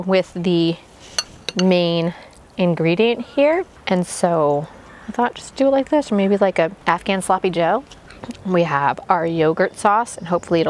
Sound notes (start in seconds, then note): none